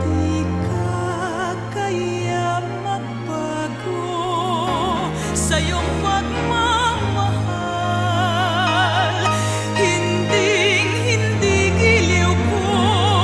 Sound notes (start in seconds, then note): none